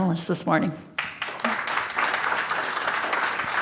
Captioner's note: audience applauds